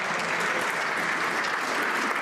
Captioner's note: some Applause